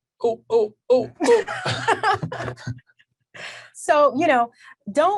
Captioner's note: laughs